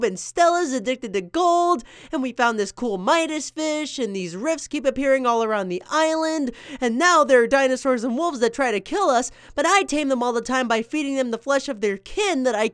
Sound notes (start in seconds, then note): none